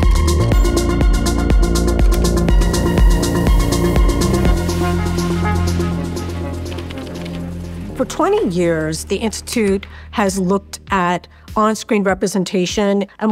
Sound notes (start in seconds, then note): 0.1 upbeat music continues; 7.1 computer keys clicking